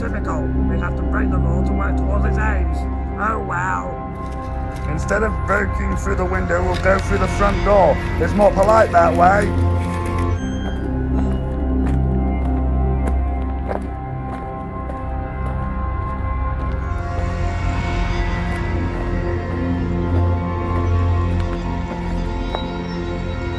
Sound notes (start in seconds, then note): 3.0 sinister spooky music; 8.8 sinister spooky music; 10.4 gate creaking open; 10.4 sinister spooky music; 11.8 footsteps; 11.8 sinister spooky music; 23.0 sinister spooky music